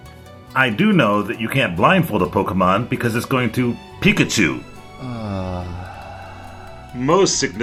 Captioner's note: groan